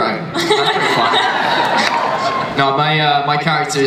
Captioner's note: panelists and audience laugh